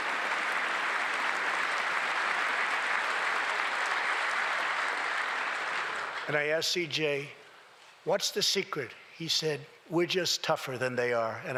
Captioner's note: applause